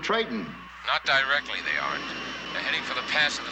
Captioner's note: Ankar Moor Over Radio